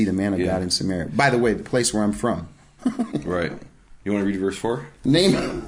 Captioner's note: laughing